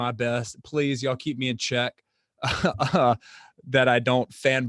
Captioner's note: chuckles